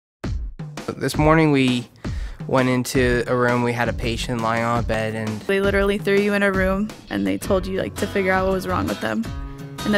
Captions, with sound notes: - [Voiceover] This morning we went into a room, we had a patient lying on a bed, and... - [Voiceover] They literally threw you in a room, and they told you, like, to figure out what was wrong with them.